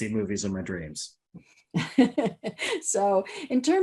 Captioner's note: laughs